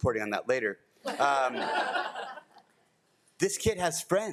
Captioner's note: all laugh